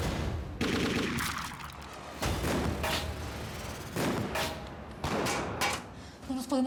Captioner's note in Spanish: continúa la balacera